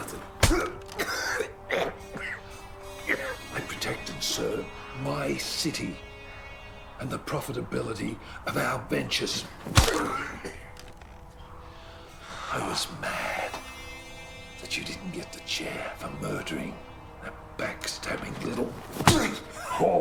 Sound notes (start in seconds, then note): 0.0 smacking; 0.1 coughing; 9.4 smacking; 18.2 smacking